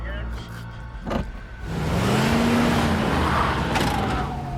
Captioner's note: sirens blaring in distance